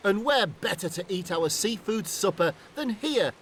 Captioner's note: coughs